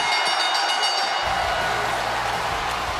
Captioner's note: bell rings